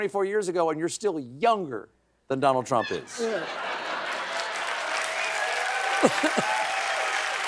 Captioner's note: applause